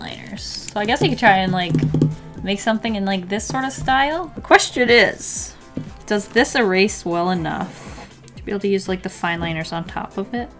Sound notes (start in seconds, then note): 0.5 fingers tapping